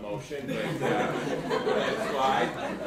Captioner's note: attendees laughing loudly